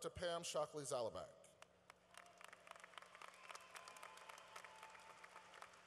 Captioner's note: cheering